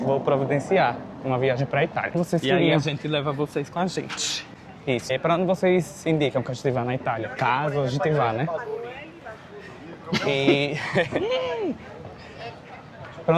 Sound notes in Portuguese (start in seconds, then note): 10.1 risadas